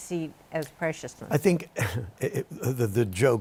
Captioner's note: chuckles